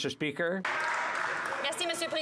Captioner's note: some Applause